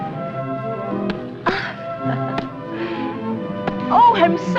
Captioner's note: laughs